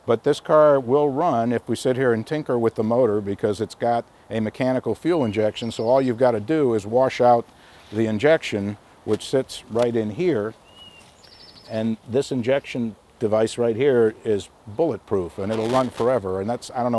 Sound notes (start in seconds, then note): none